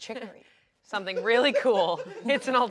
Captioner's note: laughs